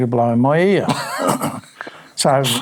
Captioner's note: laughing